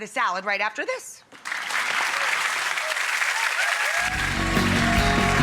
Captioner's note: audience applauds; upbeat music